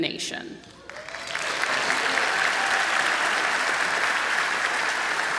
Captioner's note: applause and cheering